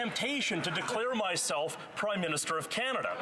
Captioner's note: some Laughter